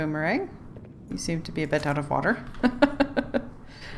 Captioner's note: laughs